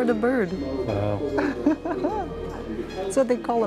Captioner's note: laughs